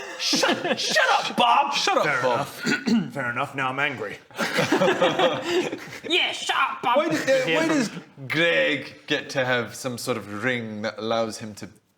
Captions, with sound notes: SHUT...SHUT UP BOB! - Shut up Bob! - Fair enough Fair enough, now I'm angry *laughs* Yeah shut up Bob! - Why does Greg - you hear from get to have some sort of ring that allows him to